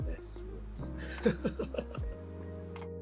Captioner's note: wry laugh